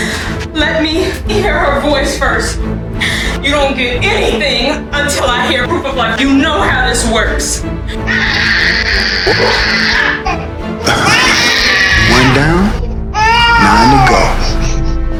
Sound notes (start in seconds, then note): 8.0 baby crying; 9.2 chuckles